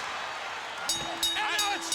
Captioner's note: bell ringing